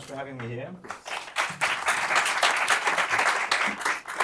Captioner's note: applause